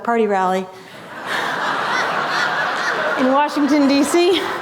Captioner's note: laughter